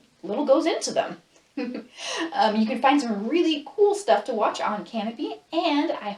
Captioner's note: laughs